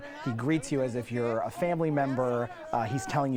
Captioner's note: laughing